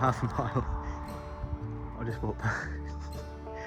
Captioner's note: laughing